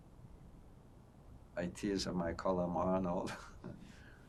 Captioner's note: laughing